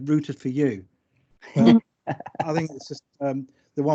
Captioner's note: laughs